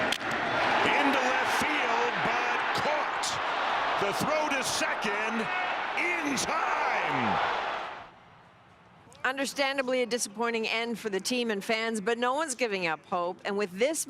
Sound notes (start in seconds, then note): 2.1 cheering